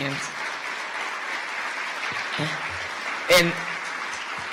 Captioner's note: audience applause